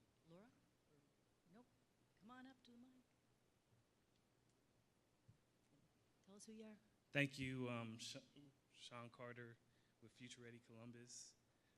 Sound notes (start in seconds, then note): none